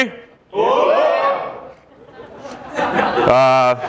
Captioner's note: crowd cheers